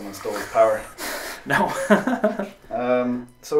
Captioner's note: laughs